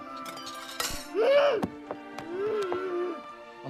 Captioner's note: moans